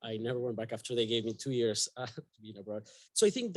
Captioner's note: chuckles